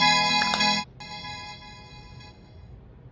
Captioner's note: music box shuts